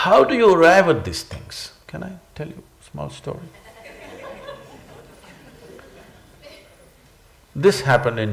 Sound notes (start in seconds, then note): 6.1 laughter